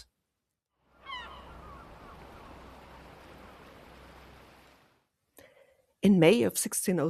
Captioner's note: seagulls +waves